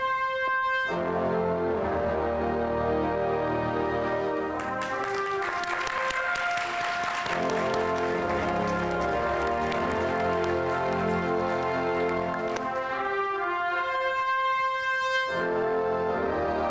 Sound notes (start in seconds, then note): 4.4 audience applauding; 9.0 soft instrumental music